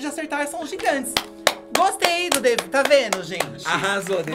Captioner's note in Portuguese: bate palmas